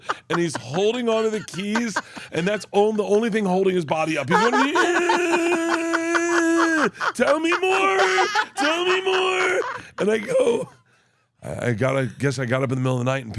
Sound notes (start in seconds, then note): 0.0 Steph laughs; 3.8 laugh; 4.4 Bert wheezing